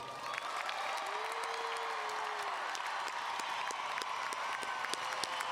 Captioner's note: audience cheering and applauding